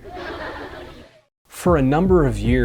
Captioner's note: audience laughing